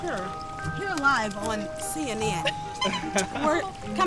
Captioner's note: chuckles